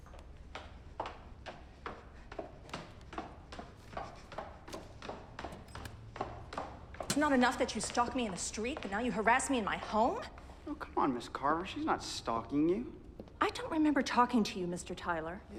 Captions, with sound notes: (shoes clacking) It's not enough that you stalk me in the street, but now you harass me in my home? - Oh, come on, Ms. Carver, she's not stalking you. - I don't remember talking to you, Mr. Tyler.